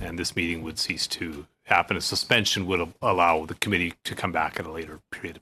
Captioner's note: speaking French